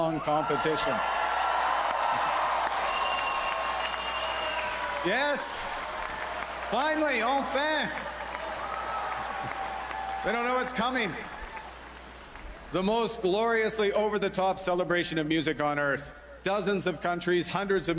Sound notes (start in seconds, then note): 6.7 cheers and Applause